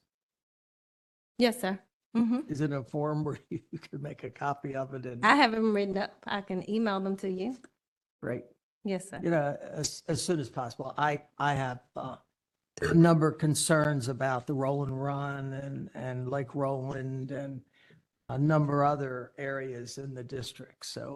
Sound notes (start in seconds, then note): 3.2 laughter